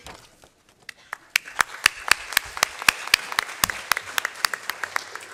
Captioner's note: applause